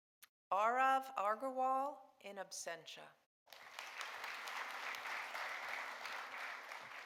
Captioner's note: audience applauding